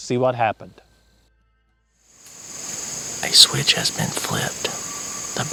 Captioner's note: whispering